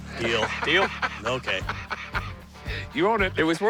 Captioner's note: laughs